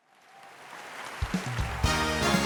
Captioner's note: audience applauds; upbeat music